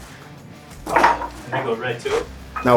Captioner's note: weights clattering